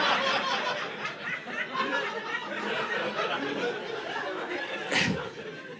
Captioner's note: audience laughing